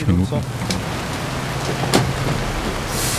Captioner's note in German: Regenprasseln